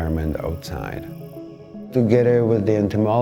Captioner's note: katydid sound